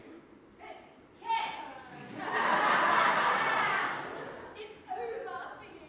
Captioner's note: audience laughs